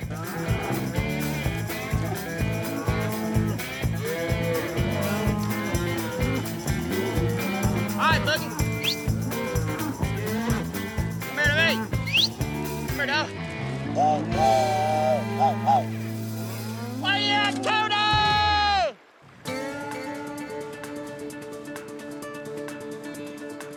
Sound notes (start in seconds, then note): 11.9 whistles; 14.2 train whistle sound